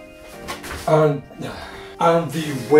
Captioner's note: sighs